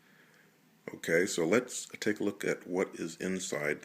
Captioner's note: voiceover